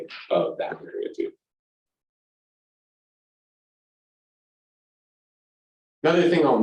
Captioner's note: silence